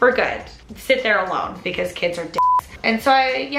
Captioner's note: beep